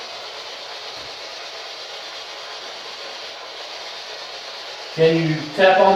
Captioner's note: white Noise